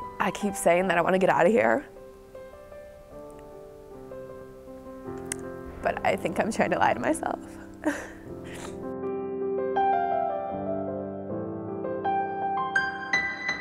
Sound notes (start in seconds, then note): 7.5 tearful sigh; 10.0 nostalgic piano music